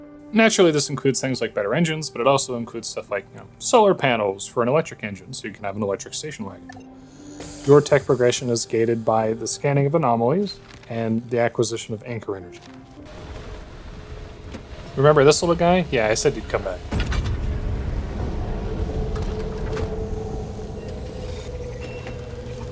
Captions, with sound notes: Naturally this includes things like better engines, but it also includes stuff like, you know, solar panels for an electric engine. So, you can have an electric Station Wagon. Your tech progression is gated by the scanning of anomalies, and the acquisition of anchor energy. [Anchor Plug whirring] Remember this little guy? Yeah, I said he'd come back. [Ominous Pandora's Box sounds]